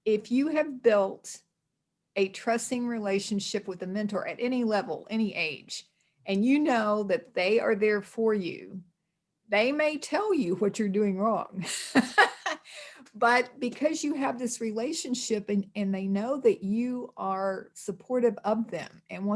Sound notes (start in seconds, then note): 11.9 laughs